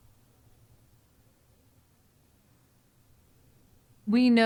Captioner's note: silence